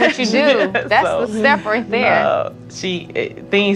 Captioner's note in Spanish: se ríe